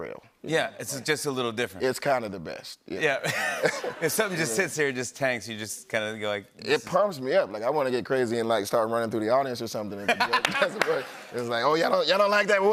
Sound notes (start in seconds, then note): 3.2 laughter; 10.0 laughter